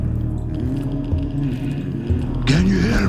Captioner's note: sensor crackles